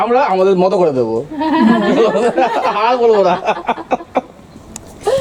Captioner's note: laughter